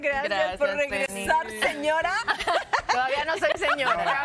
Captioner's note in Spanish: risas